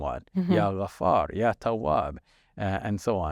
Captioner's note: speaks foreign language